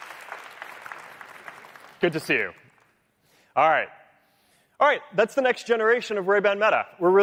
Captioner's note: cheering